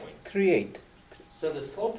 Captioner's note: voiceover